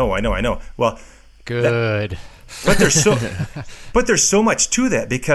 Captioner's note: laughing